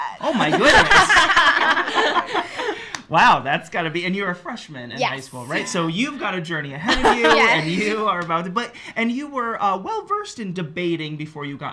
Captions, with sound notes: --Yes! --Oh my goodness! [LAUGHS] --Wow. That's gotta be —and you're a freshman in high school right? --Yes. --So, you've got a journey ahead of you. --Yes --And you are about to... And you were well versed in debating before you got